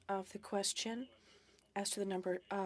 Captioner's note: speaking French